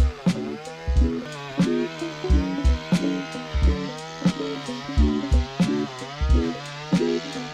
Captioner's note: laughs